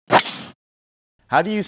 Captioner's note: logo whooshing